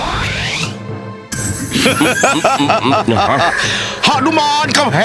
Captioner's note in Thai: หัวเราะ